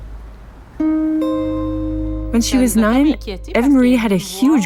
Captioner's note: speaking French with translation